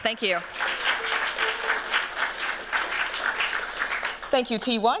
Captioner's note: applause